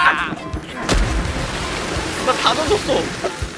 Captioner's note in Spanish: Splash